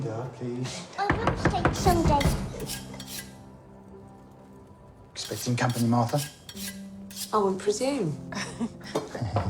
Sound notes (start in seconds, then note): 2.2 sharpening knife; 7.0 Bob stops sharpening